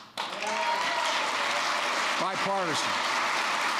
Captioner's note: applause